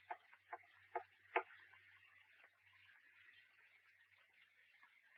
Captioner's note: cane taps lightly